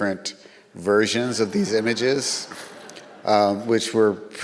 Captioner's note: audience laughs